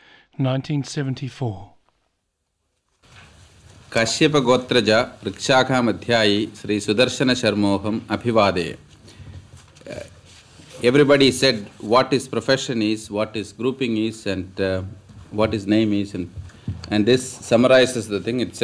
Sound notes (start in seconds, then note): 5.8 speaks some Hindi first